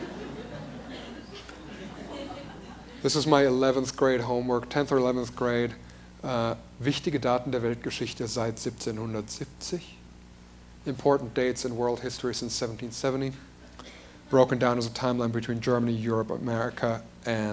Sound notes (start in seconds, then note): 2.3 laughter; 8.2 speaks in German